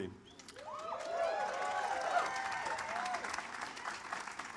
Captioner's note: audience cheers